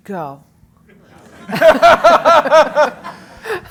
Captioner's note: laugh